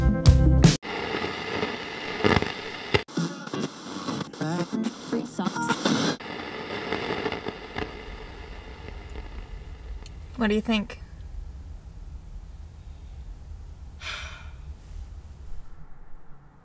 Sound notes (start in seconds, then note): 0.6 song cuts out, radio static plays; 3.5 radio static tuning to multiple stations; 8.0 static fades out; 13.9 sighs